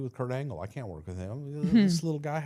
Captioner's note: blue vested woman chuckling